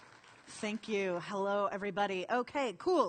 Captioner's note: applause